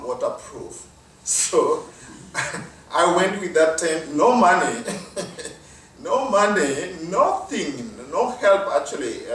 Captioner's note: laugh